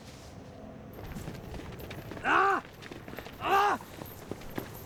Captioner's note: screams